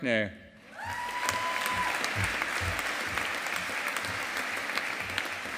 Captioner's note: audience applauding